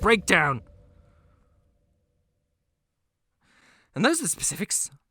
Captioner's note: silence with some heavy breathing